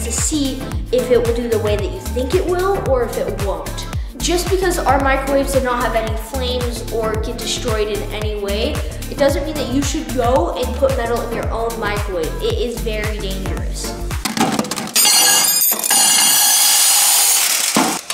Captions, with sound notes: to see if it will do the way that you think it will or if it won't. Just because our microwaves did not have any flames or get destroyed in any way, it doesn't mean that you should go and put metal in your own microwave. It is very dangerous. (metal clanging)